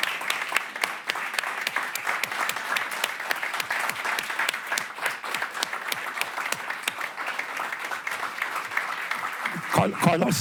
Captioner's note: applause